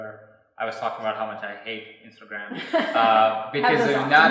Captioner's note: laughing